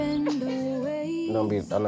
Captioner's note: crying